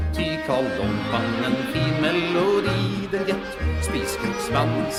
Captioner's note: geese in background